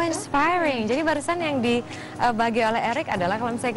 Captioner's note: non-english speech